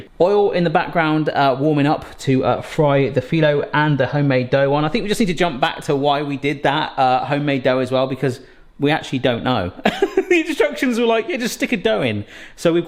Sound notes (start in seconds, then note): 9.8 laughs